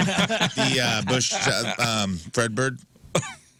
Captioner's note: laughing